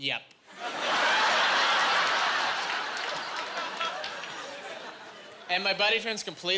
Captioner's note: laughing